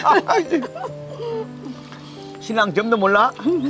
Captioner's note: both laughing